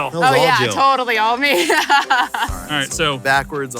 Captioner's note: laughs